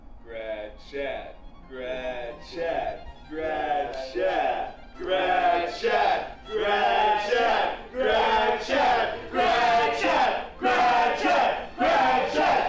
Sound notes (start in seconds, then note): 0.7 chanting